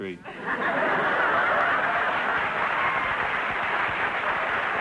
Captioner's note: audience laughter; laughter & applause